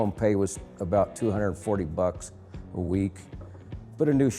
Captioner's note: none